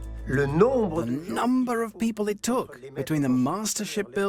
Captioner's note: voiceover